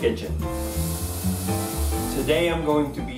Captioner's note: soft music; pan sizzling